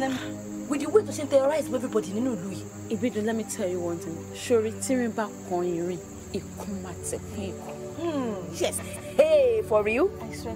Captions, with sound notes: (speaking in foreign language) let me tell you one thing. (speaking in foreign language) Yes. - Hey, for real?